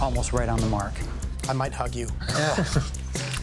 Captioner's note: Rick laughs